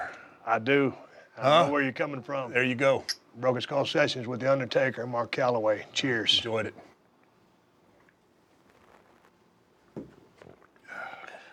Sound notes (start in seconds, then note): none